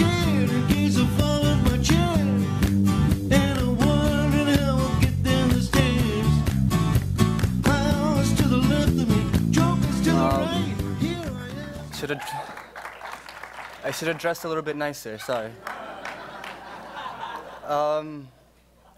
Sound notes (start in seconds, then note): 11.9 applause; 15.3 laughter